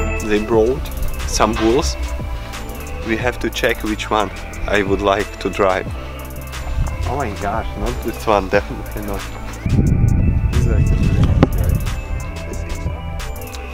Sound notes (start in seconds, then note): 10.3 men murmuring